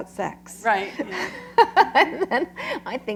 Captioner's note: laughter